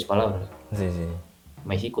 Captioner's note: Spanish